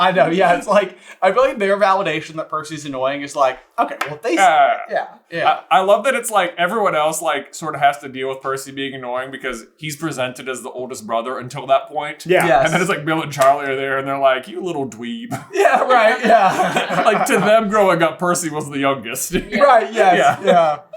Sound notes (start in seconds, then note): 15.2 laughing